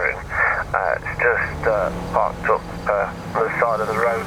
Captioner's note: radio